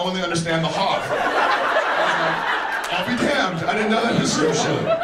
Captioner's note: audience laughs